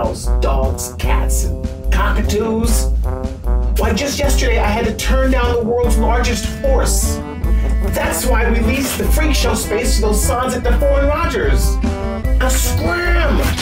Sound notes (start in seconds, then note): none